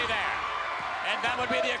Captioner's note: spectators cheering